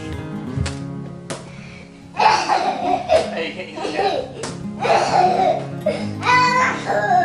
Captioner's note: laughing